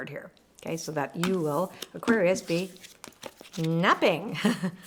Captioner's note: laughs